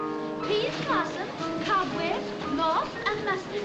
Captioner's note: people chattering